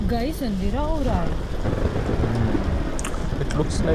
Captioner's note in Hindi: दूर बिजली गिरने की आवाज